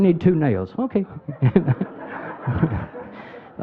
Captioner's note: laughing